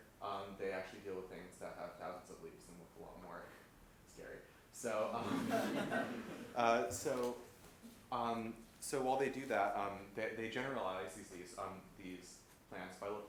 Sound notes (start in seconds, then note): 5.1 laughter